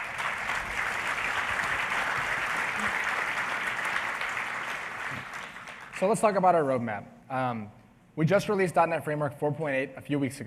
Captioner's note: applause